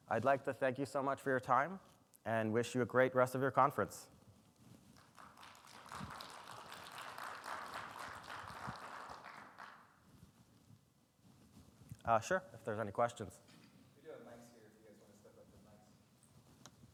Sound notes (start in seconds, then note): 4.9 audience clapping